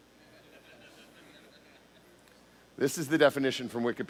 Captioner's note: laughter